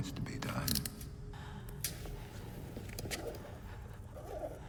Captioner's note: handcuffs clicking